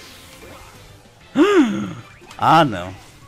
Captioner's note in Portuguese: Suspiro